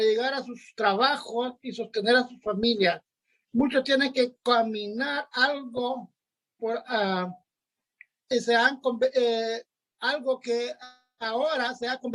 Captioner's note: spanish